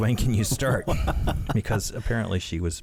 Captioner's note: laughing